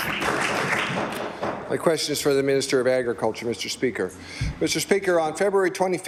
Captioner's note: applause